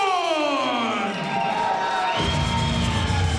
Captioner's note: crowd cheering; rock music